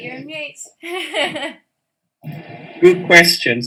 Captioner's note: laughing